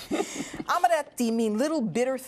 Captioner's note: laughter